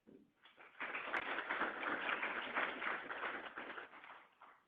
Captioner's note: applause